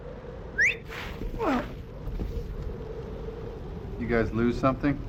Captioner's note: whistles